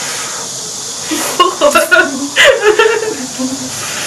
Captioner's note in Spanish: risas